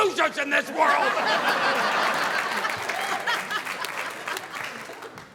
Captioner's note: audience laughing